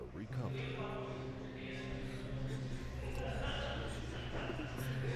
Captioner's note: background chatter